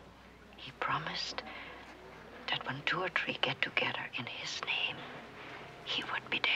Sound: Betsie talking softly

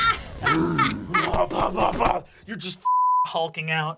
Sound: Fig laughs

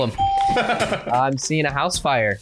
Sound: bell rings; laughs

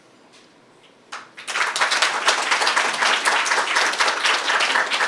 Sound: applause

